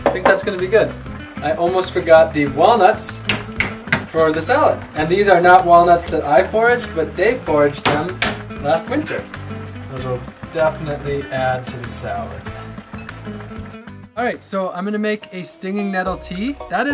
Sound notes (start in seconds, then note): 3.5 cracking